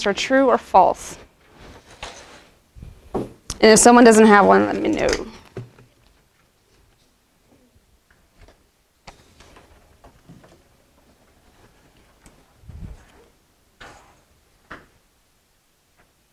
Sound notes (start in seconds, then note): 4.9 whispering